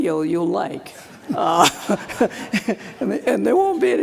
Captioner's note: laughter